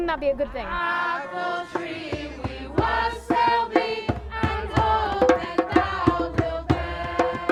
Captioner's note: crowd